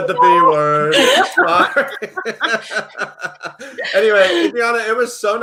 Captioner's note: laughs